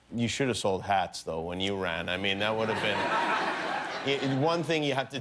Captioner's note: laughter